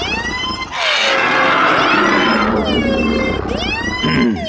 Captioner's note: sirens blare; predators roar